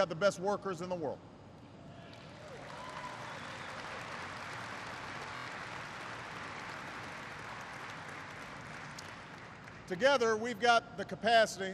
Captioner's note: applause